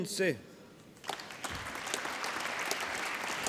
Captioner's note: applause